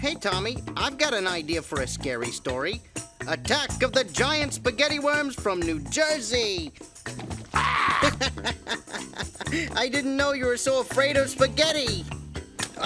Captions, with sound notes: - Hey, Tomie, I've got an idea for a scary story, "Attack of the Giant Spaghetti Worms from New Jersey." (man screaming) (Gabe laughing) - I didn't know you were so afraid of spaghetti.